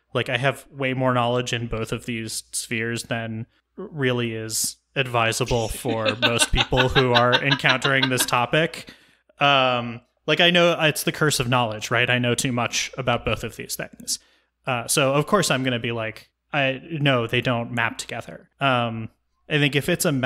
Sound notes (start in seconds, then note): 8.7 laughs